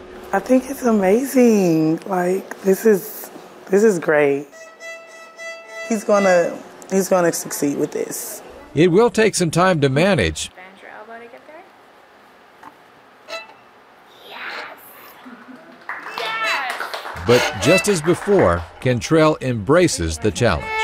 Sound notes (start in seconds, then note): 4.4 violin music; 13.2 violin screeches; 15.2 all applauding